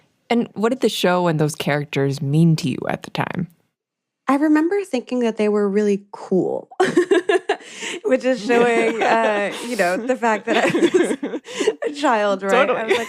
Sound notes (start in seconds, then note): 6.8 both laugh